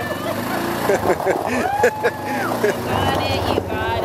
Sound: laughing

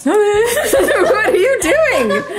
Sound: laughing

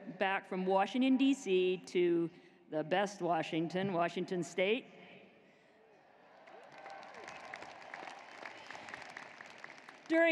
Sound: cheers and applause

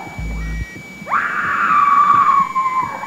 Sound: screaming

